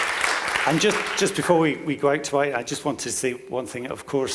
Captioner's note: clapping